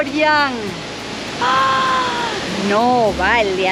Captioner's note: gasps